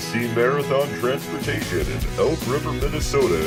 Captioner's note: upbeat guitar music; voiceover